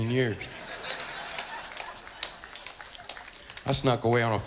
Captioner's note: crowd chuckles